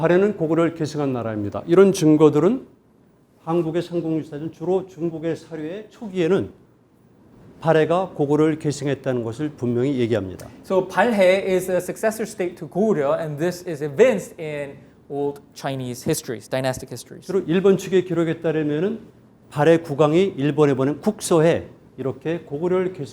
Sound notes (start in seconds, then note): 0.2 speaking in Korean; 17.6 speaking in Korean